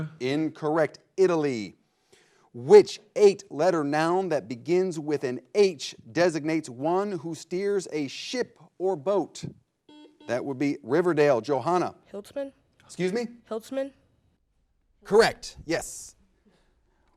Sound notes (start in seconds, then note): 9.8 buzzer blares